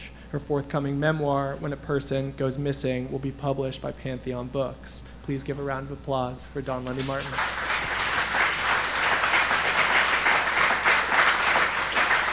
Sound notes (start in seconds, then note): 6.8 audience applauding